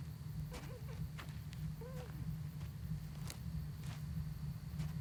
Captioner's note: Iris whimpering softly